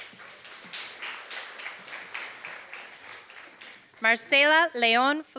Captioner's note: applause